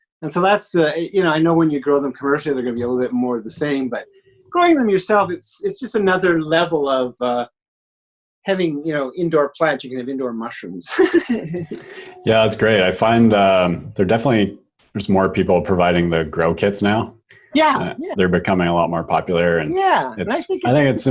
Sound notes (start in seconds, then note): 10.9 laughs